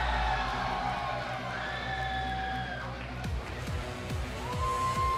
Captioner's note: cheers & applause